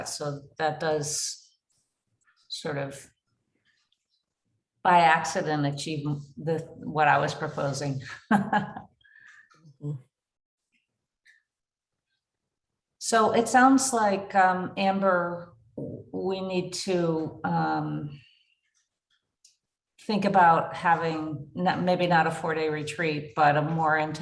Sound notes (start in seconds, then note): 8.0 chuckling